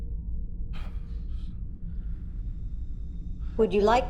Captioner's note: groans lightly